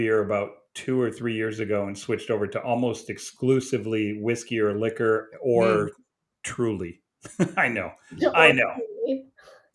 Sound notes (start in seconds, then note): 7.2 chuckles